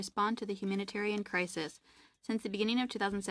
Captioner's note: speaking French